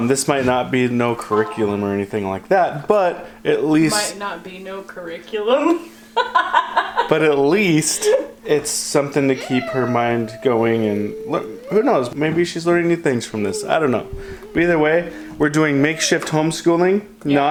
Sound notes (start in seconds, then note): 6.2 laughs; 9.2 child whining